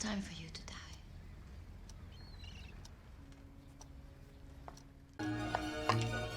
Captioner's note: clock ticking